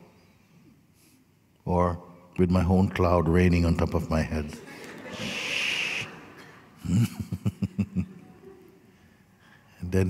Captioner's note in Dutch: gelach